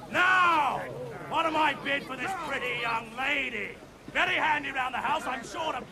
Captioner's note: loud chatter